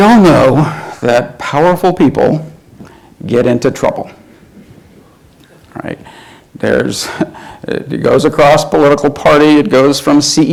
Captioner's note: chuckles